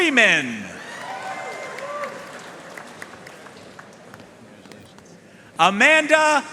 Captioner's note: audience cheering and applauding